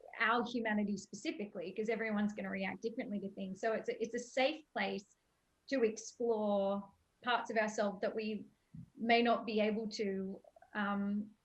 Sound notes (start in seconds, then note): none